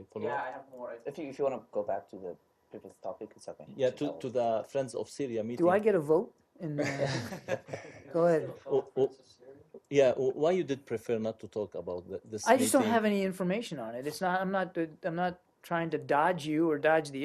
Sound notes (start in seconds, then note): 6.8 laughter